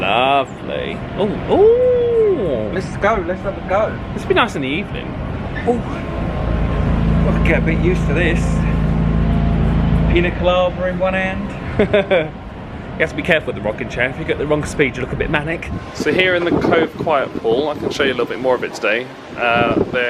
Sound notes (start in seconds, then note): 11.6 laughs